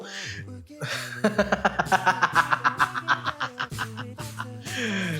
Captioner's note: 100% certified Real™ laughter